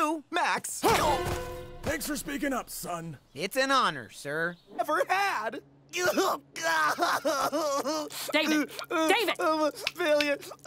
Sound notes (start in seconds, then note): 6.0 crying and noises of distress